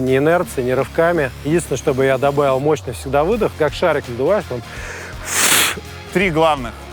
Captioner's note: exhales sharply